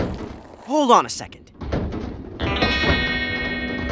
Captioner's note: thumping in ductwork